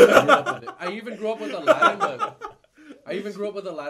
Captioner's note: laughing